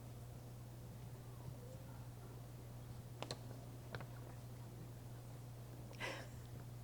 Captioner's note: none